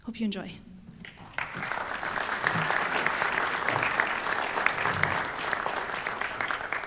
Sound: applause

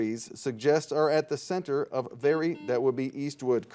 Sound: buzzer dings

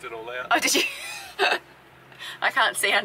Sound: chuckles

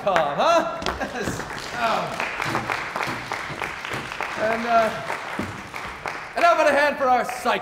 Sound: applause

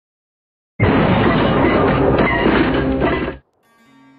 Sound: car crash sound

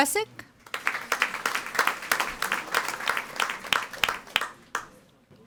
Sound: audience applauding

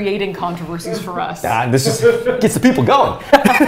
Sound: laughs

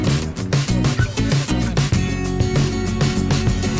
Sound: chattering

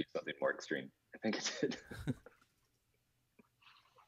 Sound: laughs

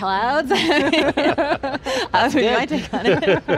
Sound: all laugh

